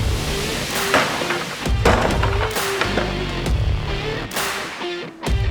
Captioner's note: wood post clattering